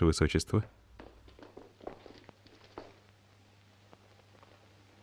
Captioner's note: floor pattering